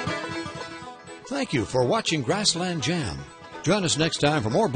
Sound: voiceover

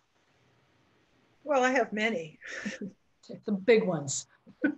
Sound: laughs

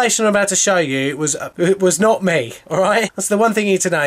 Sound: laughs

